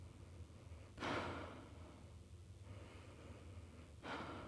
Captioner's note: heavily breathing